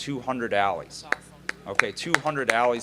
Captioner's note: applause